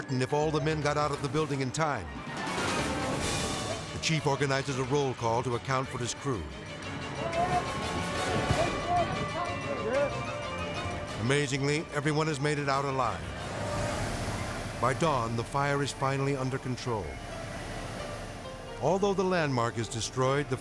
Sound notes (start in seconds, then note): 7.1 dramatic music; 9.1 firemen shouting